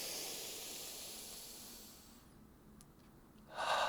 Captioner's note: inhales